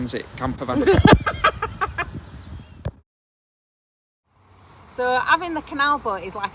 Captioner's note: laughing; birds singing